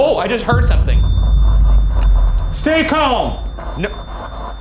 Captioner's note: REM-pod beeps